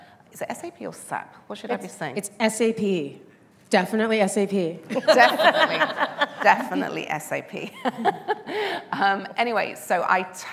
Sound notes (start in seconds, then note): 8.1 laughing